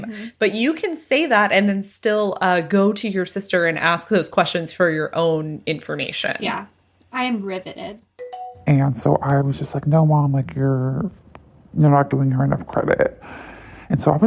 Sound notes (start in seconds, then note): 8.2 bingbong